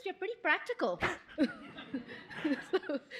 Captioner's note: laughter